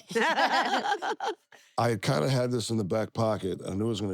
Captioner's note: laugh